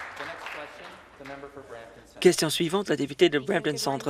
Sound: some Applause

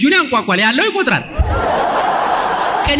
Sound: laughter

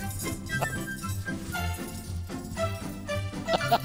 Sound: chuckling

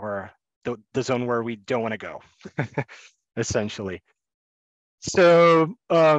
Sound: chuckles

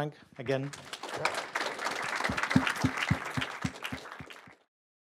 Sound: clapping

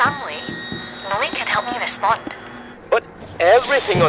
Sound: squealing subsides

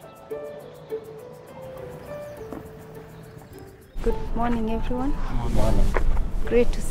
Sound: turbines in the distance

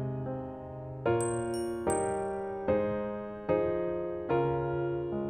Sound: bell dinging

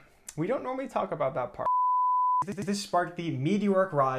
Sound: screen beeping

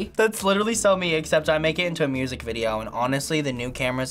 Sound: none

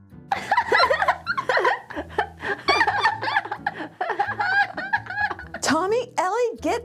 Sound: kids laughing, jumping on a med

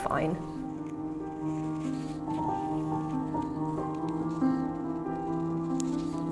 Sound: classical music; fabric rustling

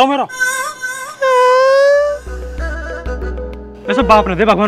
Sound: crying

